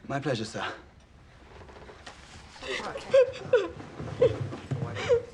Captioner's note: sobbing